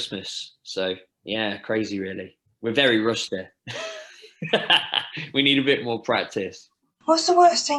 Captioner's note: laughter